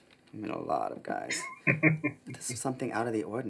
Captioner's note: chuckling